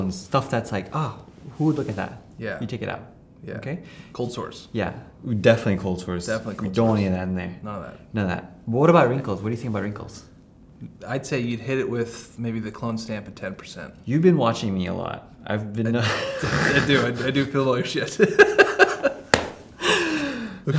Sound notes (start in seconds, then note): 16.0 chuckles; 18.2 speaker drowned out by laughter; 18.3 laughing